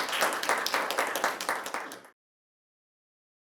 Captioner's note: applause